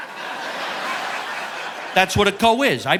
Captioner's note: audience laughing